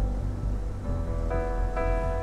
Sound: none

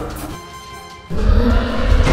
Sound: roar

